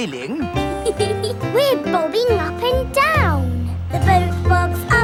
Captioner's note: giggles